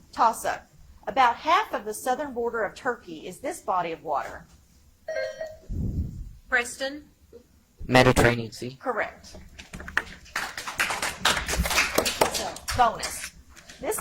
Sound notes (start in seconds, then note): 5.2 buzzer chimes; 10.2 audience applauds